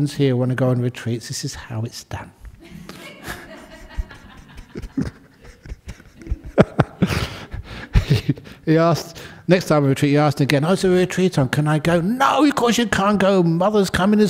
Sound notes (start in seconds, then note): 2.6 laughter